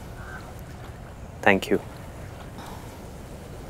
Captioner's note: Gauravi exhales; Gauravi exhales